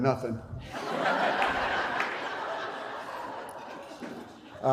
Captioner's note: laughter